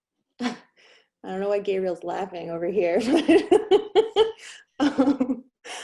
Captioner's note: laughs